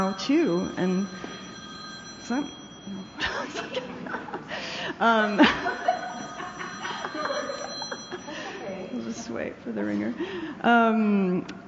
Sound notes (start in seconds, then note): 4.8 phone Ringing; 8.1 laughter